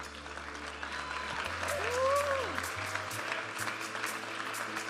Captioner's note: audience applauding and cheering; upbeat music